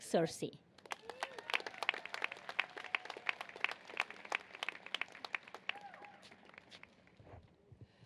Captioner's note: applause